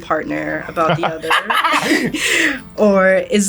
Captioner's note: laughs